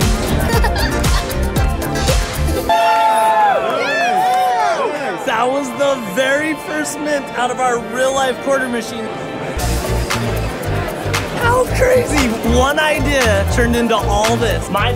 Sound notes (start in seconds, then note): 0.2 laughter; 2.6 cheering